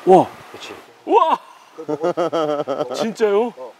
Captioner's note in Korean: 감탄